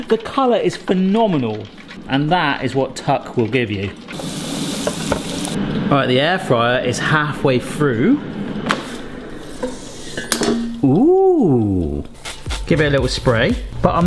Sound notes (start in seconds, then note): 4.0 oil sizzling